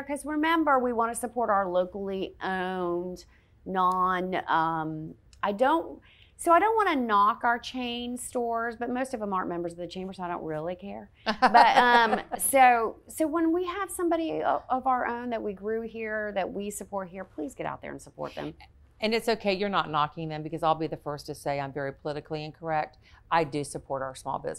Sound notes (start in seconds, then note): 11.2 laughing